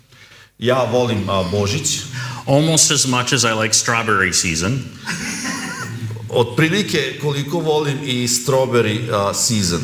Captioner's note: laughs